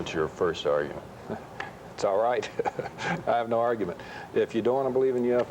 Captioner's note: Laughs